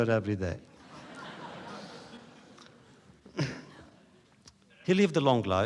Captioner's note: laughter